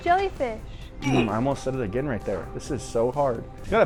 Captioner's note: grunts